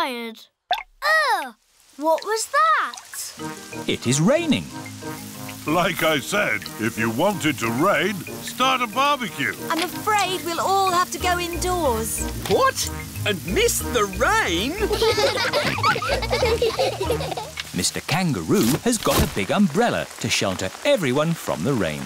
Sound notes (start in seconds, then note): 14.7 all laughing